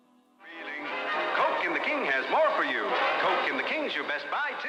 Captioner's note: voiceover